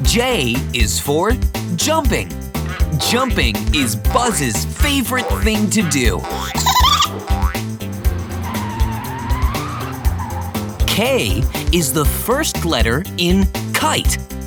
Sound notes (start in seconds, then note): 5.9 giggling; 7.3 bouncing; 7.8 screeching